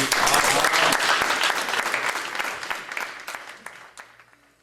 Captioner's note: audience applauding